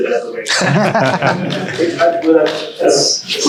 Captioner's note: audience laughing; panel laughing